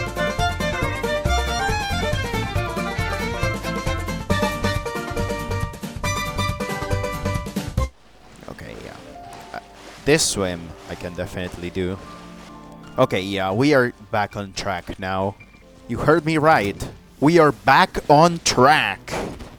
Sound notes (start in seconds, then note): 8.4 very quietly